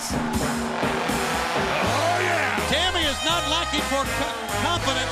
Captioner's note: crowd cheering